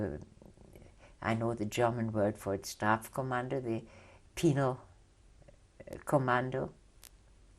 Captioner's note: german